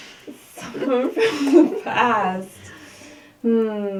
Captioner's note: laughing